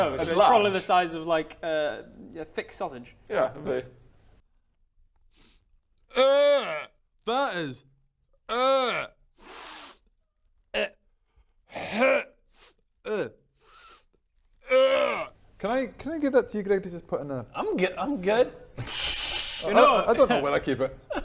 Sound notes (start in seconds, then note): 5.3 sniff; 9.4 sniff; 13.6 sniff; 13.6 sniiiiff